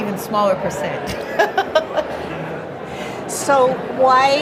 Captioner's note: laughs